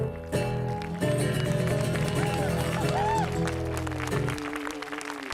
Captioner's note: applause & cheers